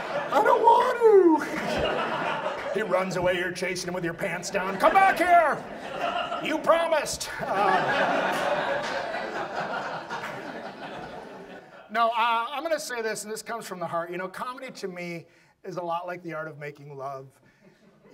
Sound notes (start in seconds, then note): 0.0 audience laughs; 11.8 audience laughs